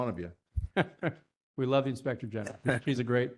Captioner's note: laugh